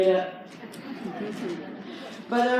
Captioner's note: crowd lightly laughs